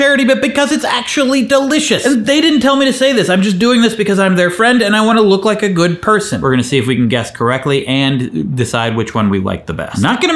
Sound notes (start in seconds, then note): none